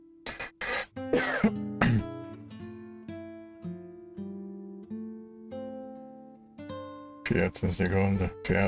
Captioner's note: coughing